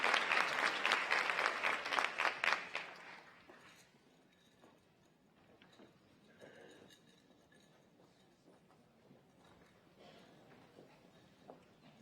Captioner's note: applause